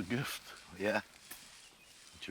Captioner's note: chuckles